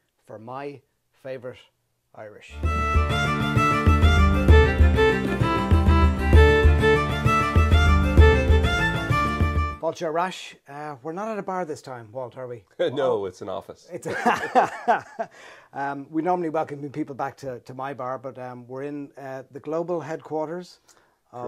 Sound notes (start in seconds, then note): 2.5 irish music playing; 14.0 both laugh